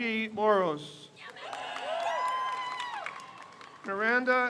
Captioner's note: crowd cheers